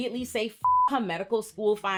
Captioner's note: beep